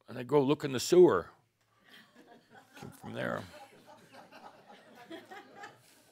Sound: some chuckles

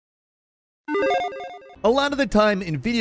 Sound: logo beeps

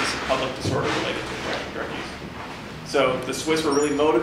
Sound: audience shuffling

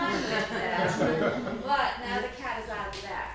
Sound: people laughing

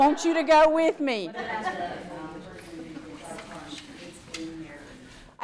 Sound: audience member chatter

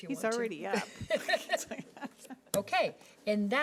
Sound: people laughing

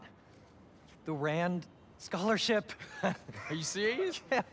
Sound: laugh

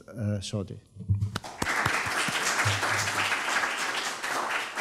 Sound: audience claps

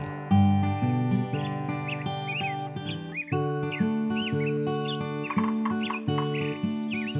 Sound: sound of birds making their noises

